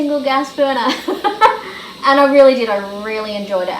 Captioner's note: laughs